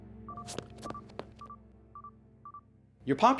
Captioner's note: footsteps running